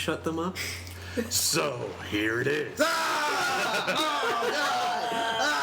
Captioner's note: sounds of disgust